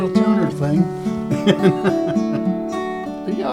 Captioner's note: laughter